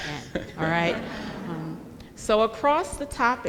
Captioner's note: audience laughing